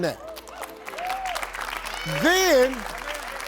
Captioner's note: crowd applauds